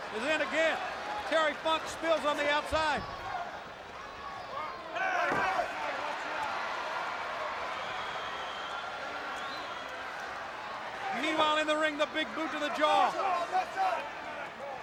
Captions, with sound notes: is in again. Terry Funk spills on the outside. Hey! Watch out. (crowd cheering) Meanwhile, in the ring, the big boot to the jaw.